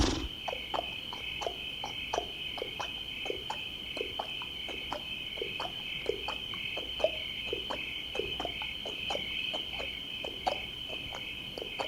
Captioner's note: hooves clopping; horse snorting; insects chirping